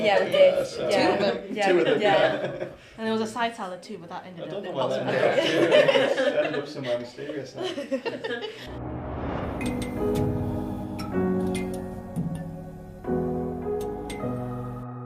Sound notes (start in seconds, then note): 4.8 laughter; 8.6 outro music